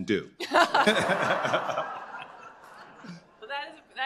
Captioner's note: laughter